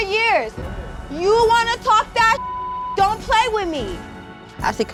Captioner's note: beep